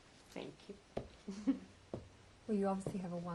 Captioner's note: laughs